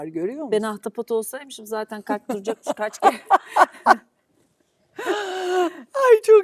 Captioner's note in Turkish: kahkaha